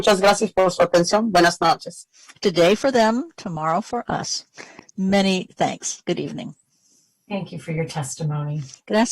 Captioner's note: speaking spanish